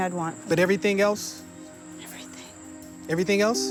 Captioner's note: whispering